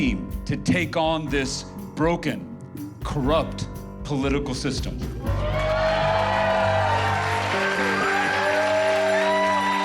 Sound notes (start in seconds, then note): 5.2 cheering and applause; 7.2 soft music